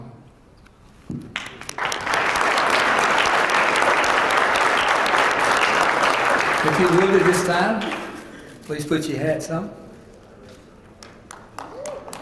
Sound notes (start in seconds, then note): 1.3 applause